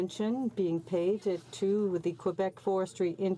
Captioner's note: speaking French